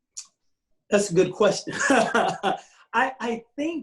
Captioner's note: laughs